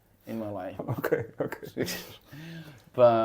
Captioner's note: laughs